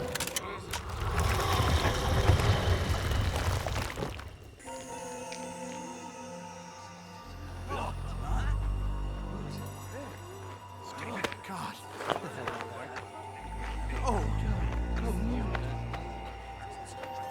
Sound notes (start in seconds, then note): 1.5 guns clicking; 5.1 eerie music; 8.3 soldiers gasping; 14.3 eerie music continues